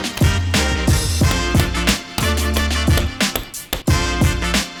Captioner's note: hammer tapping